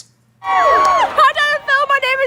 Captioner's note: crowd cheering